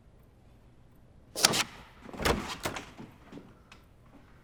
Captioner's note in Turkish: Kapı açılma sesi